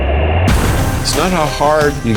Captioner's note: splash